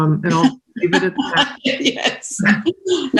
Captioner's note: laughs